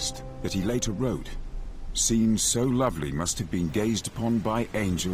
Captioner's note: water rushing